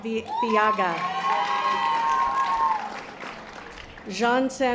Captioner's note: audience applause